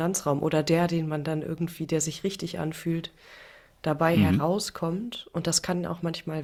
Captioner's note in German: räuspern